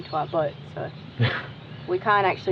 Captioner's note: laughs